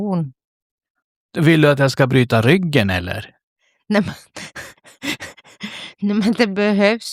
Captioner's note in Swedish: skratt